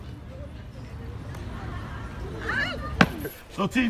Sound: laughing; crowd mumbling

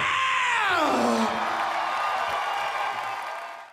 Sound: audience cheering and applauding

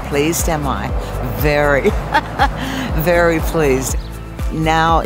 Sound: laughing

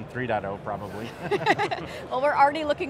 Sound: laughs

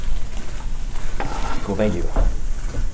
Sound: water sizzling

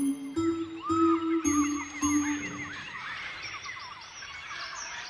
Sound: monkeys chattering

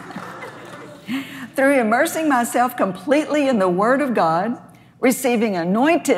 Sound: laughs

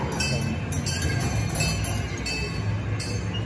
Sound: boat bells dinging

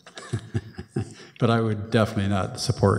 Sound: chuckles

